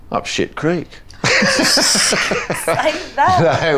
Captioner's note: all laughing